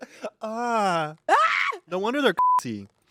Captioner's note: laughs; moans; screams; beep